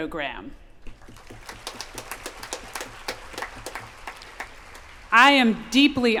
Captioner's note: applause